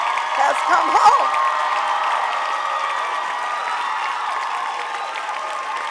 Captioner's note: audience applauding